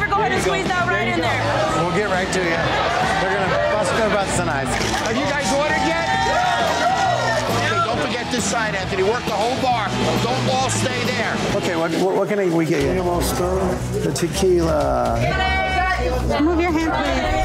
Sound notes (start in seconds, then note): 5.9 cheers; 14.3 shouting